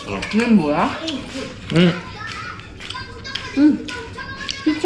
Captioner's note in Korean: 쩝 쩝 쩝 쩝